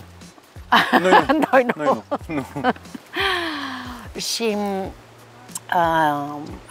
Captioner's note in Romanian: Râsete